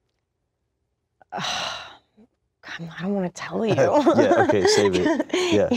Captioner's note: sighs